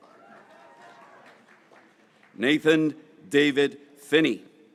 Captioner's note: graduates cheering